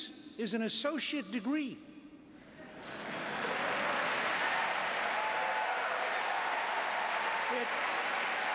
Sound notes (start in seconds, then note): 2.8 applause